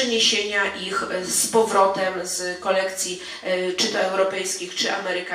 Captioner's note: speaking in foreign language